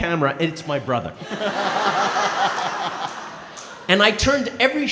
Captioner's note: & crowd laughing